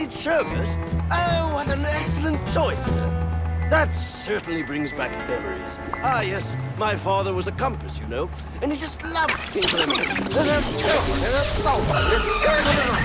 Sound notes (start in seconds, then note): 9.1 electricity crackling